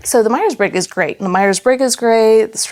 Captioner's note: none